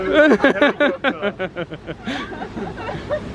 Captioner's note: laughing